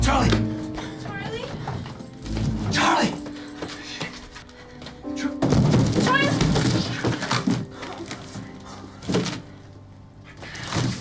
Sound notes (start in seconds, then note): 5.4 boxes clattering; 8.4 tape ripping